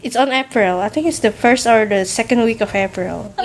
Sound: none

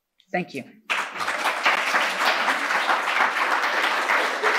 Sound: audience clapping

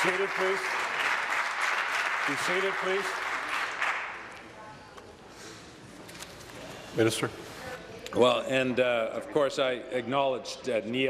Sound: applause

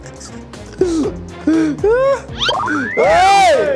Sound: laughs; gasps

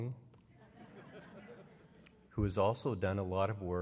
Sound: laughter

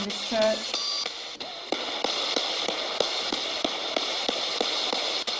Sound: ghost box hissing

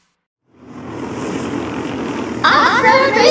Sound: racing kart sounds

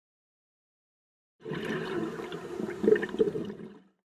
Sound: underwater exhalation

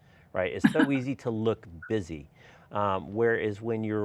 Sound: chuckles

